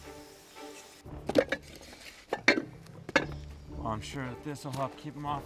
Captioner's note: clinking